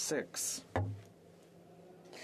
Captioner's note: speaking French